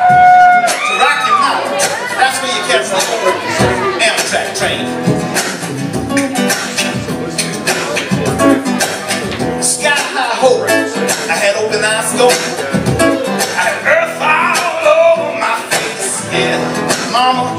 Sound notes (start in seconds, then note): 0.0 cheers; 6.1 vocal percussion